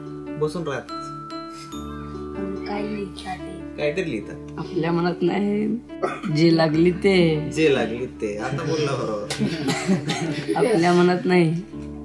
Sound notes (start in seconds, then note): 6.9 laughs; 9.2 everyone laughing